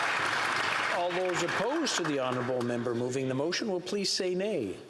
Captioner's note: some Applause